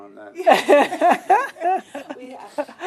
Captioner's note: laugh